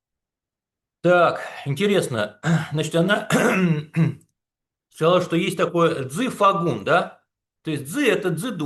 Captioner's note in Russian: кашель; откашливается